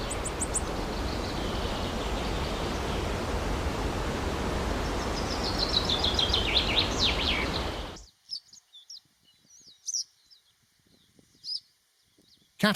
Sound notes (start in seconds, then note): 2.5 birds chirping